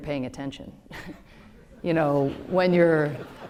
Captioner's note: laughter